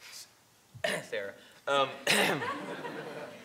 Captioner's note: clears throat